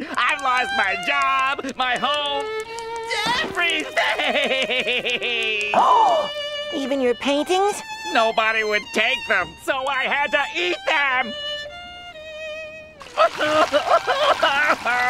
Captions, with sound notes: I lost my job, my home, everything! [gasping] Even your paintings? Nobody would take them, so I had to eat them! [sobbing]